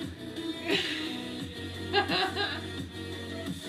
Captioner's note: laughs